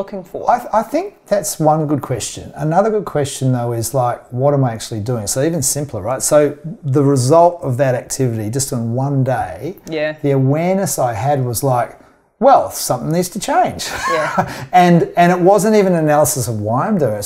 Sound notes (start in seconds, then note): 13.8 chuckles